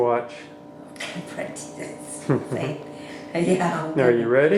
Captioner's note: laughing